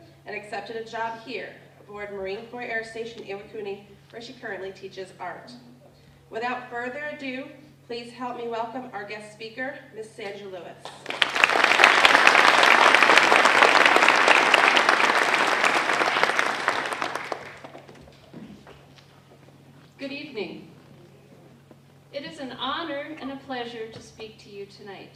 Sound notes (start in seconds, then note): 10.8 applause